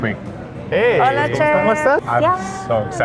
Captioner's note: speak in Spanish